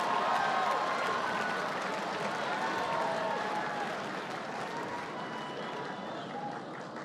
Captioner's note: laughter and applause